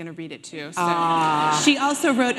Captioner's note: audience laughing